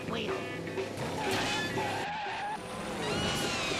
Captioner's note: tires screeching